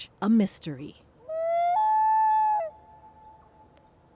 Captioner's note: loon calling